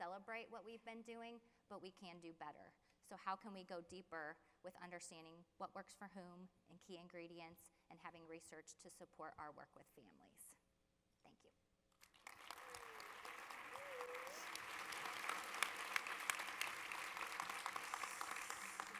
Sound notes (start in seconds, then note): 12.0 audience applause